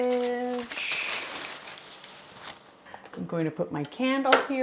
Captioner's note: paper crinkling